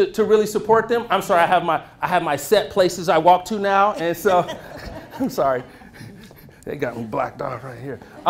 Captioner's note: laughter